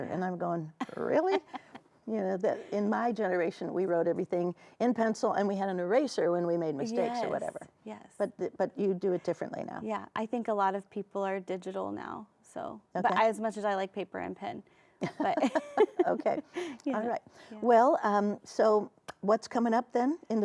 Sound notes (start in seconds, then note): 15.0 both laugh